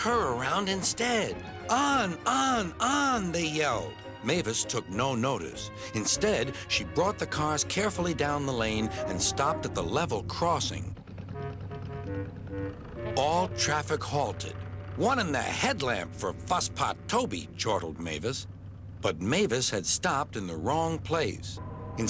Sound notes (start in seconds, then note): 11.1 honks; 11.1 toots; 21.6 hums